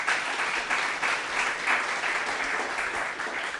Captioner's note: applause